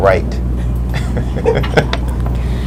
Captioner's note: laughs; laughter in background